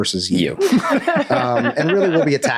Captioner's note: all laughing